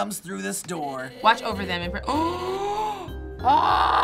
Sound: gasping

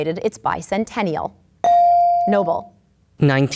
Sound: ding

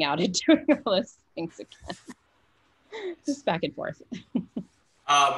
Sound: laughs

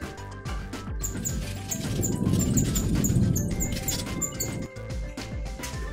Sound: machine Noises

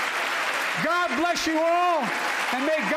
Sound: applause

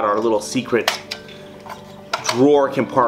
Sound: click

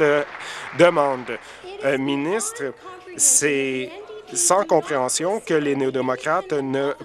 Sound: applause

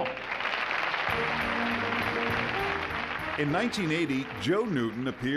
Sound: audience clapping

